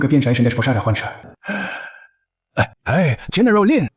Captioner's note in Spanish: Suspiro